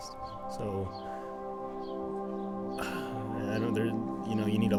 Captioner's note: sighs